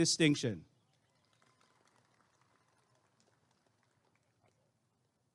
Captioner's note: applause and cheering